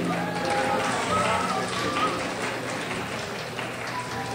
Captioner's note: crowd applauds